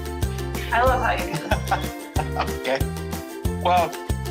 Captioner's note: laughs